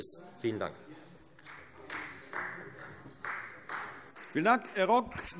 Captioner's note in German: Beifall Freie Demokraten